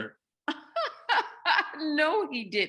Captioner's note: laughs